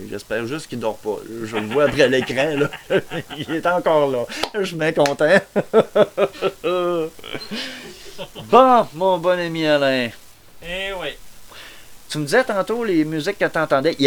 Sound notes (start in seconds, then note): 1.4 laughter; 5.0 laugh